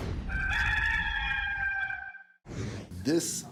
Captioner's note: rooster crowing